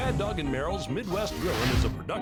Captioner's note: fire whooshes